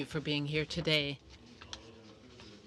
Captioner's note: speaking French